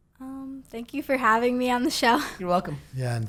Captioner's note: laughs